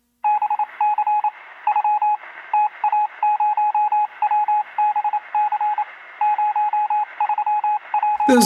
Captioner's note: Tepuk tangan